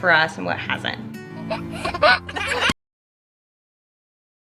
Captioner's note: laughing